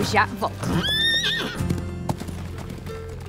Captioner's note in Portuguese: cavalo relinchando